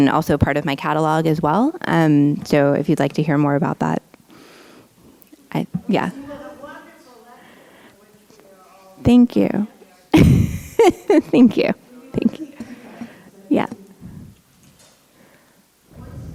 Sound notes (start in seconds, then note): 11.8 laughs